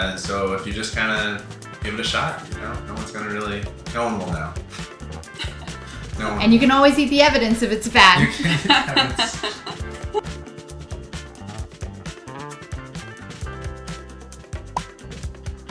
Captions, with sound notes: and so if you just kinda give it a shot, no one's gonna really, no one will know. No one will. - And you can always eat the evidence if it's bad. (laughing) - You can eat the evidence. (chill funk music)